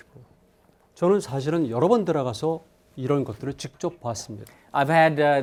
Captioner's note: speaking in Korean